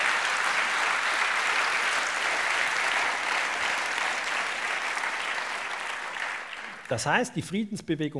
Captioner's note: applause